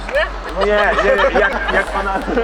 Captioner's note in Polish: śmiech